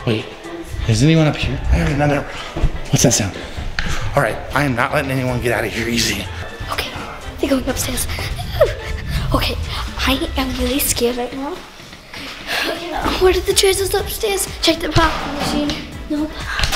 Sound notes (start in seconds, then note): 12.4 pants